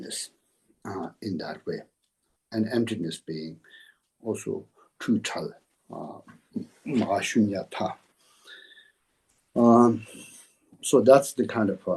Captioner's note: tibetan